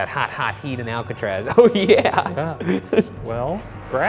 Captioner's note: REM-pod beeps